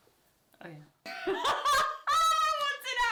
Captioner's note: laughter